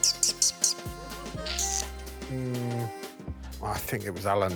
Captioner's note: coos and chirps